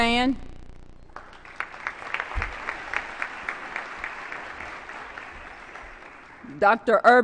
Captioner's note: applause